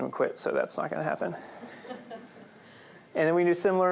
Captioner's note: laughter